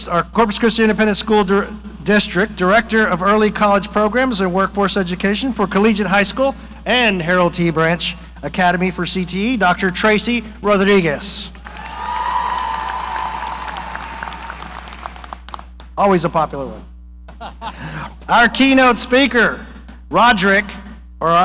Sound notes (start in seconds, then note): 11.6 audience cheering; 11.6 audience applauding; 17.3 person laughing